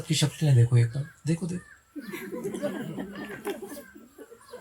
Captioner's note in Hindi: हंसी